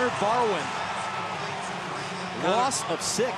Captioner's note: pa announcement